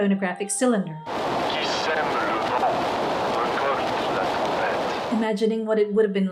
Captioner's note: crackly cylinder